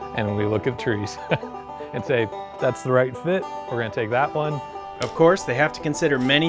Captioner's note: laughing